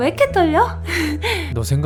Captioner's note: gasp